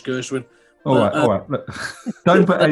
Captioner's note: chuckling